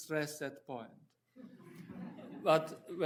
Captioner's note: audience chuckling